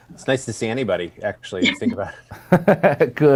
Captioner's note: laughs